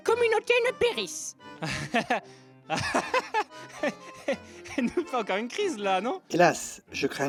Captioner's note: nervously laughting